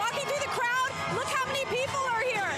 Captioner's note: cheering and Applause